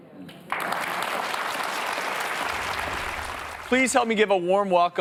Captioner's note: audience applauds